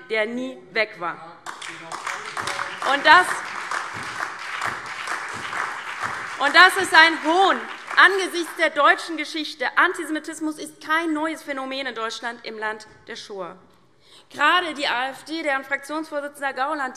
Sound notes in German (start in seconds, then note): 1.4 Beifall - Zuruf